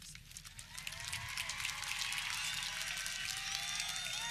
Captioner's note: audience clapping